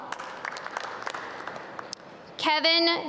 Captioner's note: audience clap